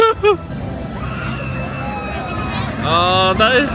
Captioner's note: laughing; riders screaming